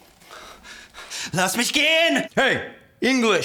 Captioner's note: officer yelling in German